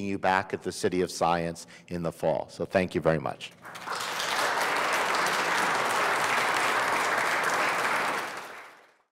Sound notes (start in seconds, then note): 3.6 audience applauds